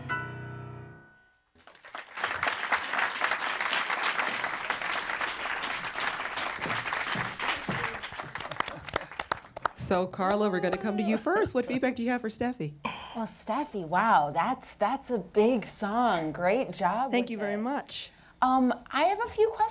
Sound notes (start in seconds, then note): 1.5 applause